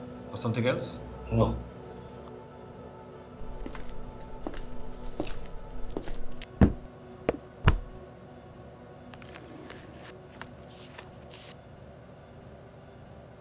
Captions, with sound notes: ....or something else?? NO (footsteps) (flipping pages)